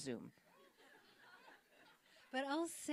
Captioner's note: audience laughing